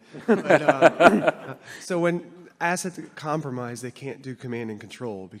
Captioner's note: laughter